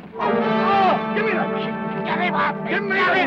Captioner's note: groans